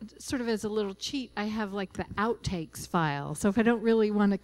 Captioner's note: none